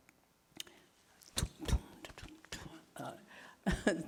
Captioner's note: imitating drum music